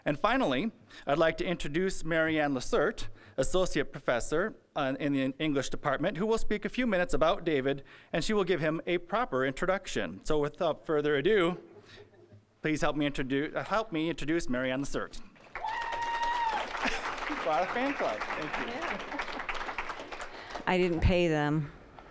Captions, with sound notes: And finally, I'd like to introduce Maryann Lesert, Associate Professor in the English department who will speak a few minutes about David, and she will give him a proper introduction. So without further ado, please help me introduce Maryann Lesert. (applause, cheering) Quite a fan club-- thank you. (applause) >> I didn't pay them.